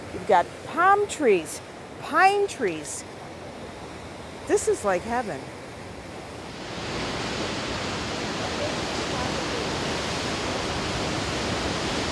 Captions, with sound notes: you've got palm trees, pine trees. This is like heaven. [OCEAN WAVES]